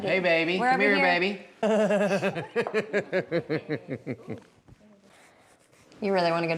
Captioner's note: chuckles